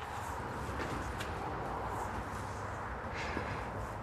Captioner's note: distant traffic noise